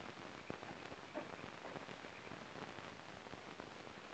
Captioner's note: insects chirping